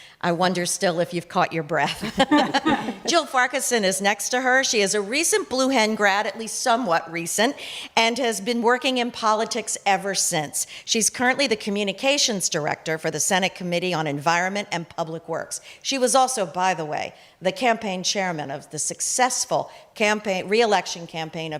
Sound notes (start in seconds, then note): 2.0 chuckle; 4.5 chuckle